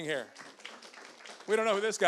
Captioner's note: audience applauds